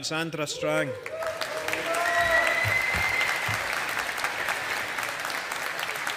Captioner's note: audience applauding